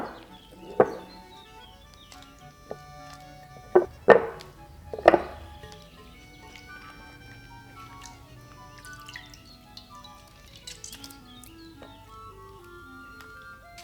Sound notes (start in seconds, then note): 7.9 water drips